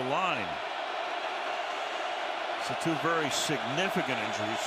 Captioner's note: cheering